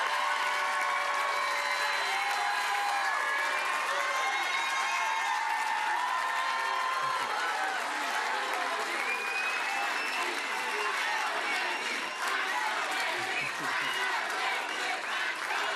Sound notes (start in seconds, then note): 0.0 cheering and Applause